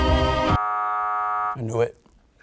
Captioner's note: buzzer buzzes